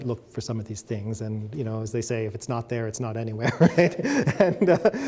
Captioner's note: laughs